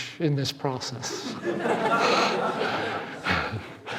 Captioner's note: laughing